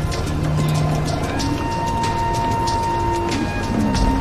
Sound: animals growling

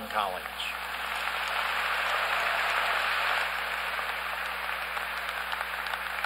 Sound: applause

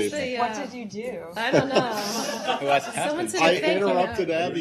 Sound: laughter

